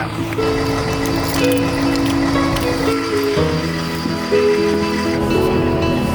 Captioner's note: car engine rumbling